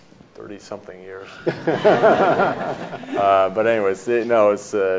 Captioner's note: audience laughs